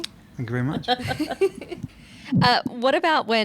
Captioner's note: all laughing